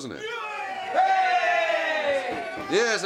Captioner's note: cheering